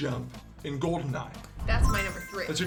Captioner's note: blip